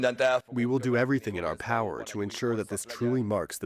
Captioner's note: through translator